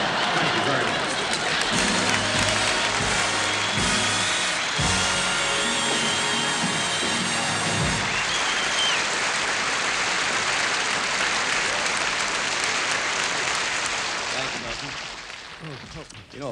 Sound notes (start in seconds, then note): 1.6 applause